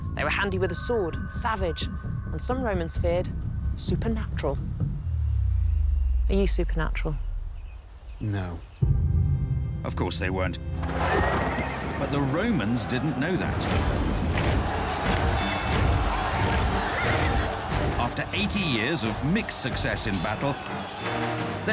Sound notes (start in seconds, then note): 13.4 swords clashing, battle cries